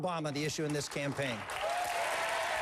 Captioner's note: applause